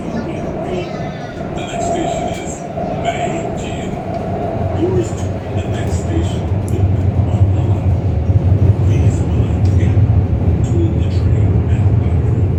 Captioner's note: Regular English announcement, no special announcement